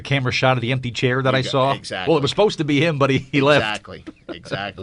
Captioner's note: laughs